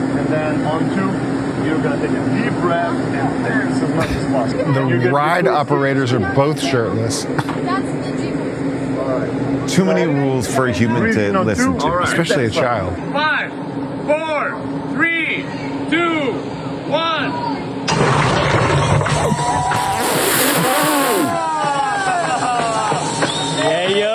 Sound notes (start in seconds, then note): 4.0 laughs; 19.1 onlookers cheering; 20.4 sputter laughs